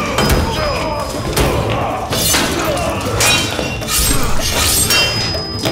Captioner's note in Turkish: Darp sesleri; Kılıç sesleri